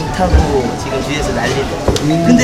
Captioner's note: haha; haha